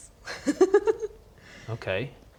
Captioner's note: giggles